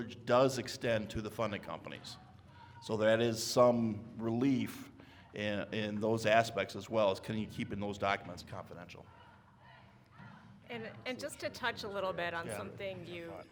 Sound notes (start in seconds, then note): 9.0 people shouting outside; 9.8 speaks faintly